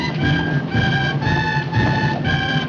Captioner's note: crowd cheering